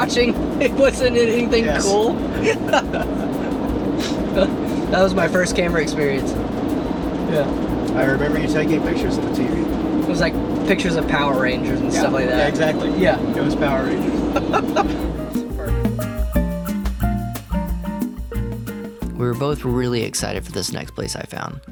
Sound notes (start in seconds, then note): 14.0 laughing; 16.0 upbeat music